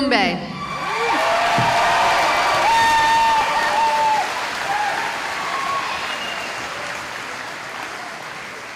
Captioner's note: cheering